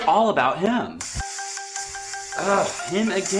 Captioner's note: phone rings